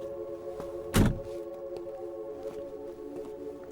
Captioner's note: door thuds